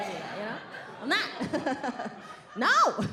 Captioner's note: laughs